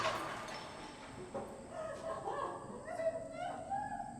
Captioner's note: crying